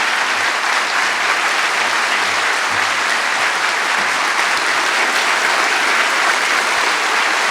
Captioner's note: applause